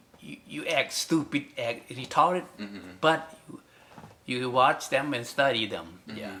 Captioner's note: speaks in English